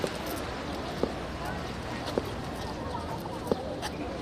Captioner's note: footsteps approaching